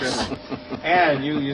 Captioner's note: chortling